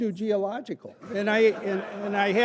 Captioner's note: laughter